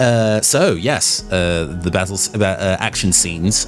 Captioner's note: stutters